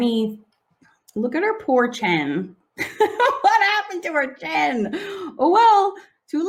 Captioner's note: laughing